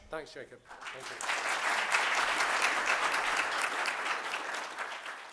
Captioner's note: applause